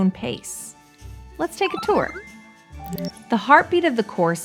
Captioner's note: slide beeping